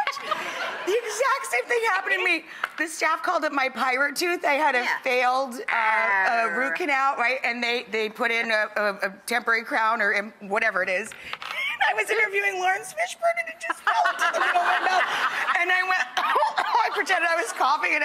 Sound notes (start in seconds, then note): 13.6 laughter; 16.1 cough cough